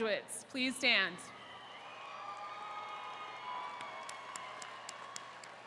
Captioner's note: attendees cheering